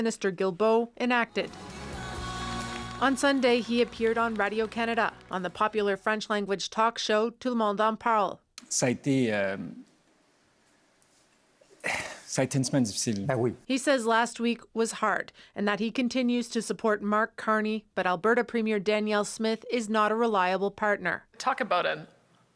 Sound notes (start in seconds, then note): 13.5 speaking French